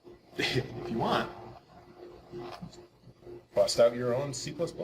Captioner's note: chuckling